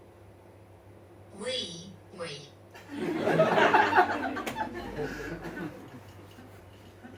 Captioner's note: audience laughs